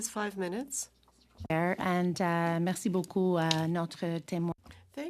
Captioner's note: speaking French